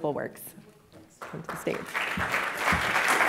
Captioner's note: applause